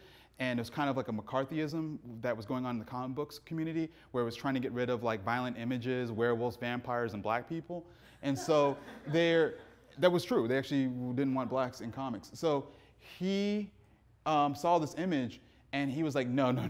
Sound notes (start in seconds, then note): 8.3 audience laughing